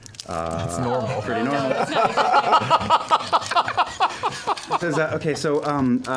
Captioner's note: laughter